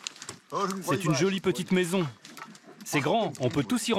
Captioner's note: foreign spoken audio